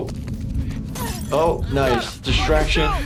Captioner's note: glass breaks